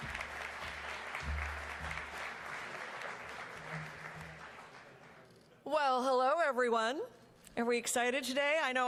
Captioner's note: applause